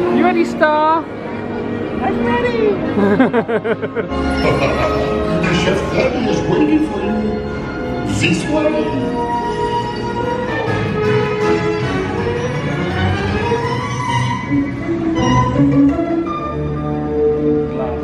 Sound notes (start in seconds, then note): 2.9 laughs; 11.2 exciting music; 16.7 tense music